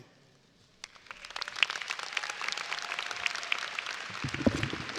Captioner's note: audience applauding